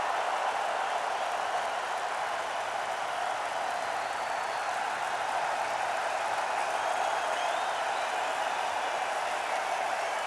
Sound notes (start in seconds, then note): 2.5 applause